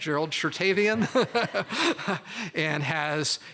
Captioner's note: laughter